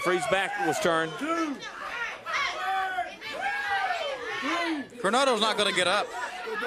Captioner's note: crowd chatter